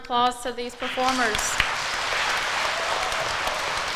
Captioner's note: crowd applauds